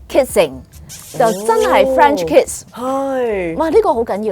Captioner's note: french wet kiss; wet kiss